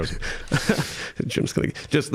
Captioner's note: all laughing